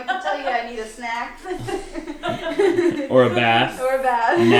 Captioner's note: laughing